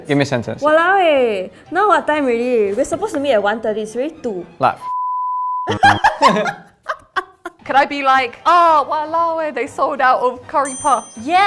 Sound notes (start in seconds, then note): 5.3 buzzer buzzes; 5.6 chuckles; 5.6 laughs; 10.6 bell dings